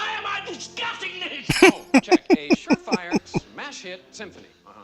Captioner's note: laughing